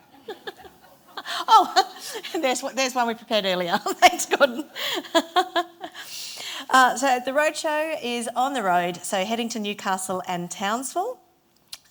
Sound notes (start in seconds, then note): 0.0 audience laughing; 3.8 laughs